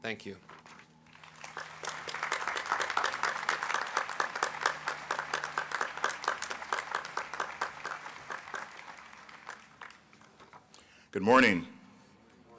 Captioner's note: applause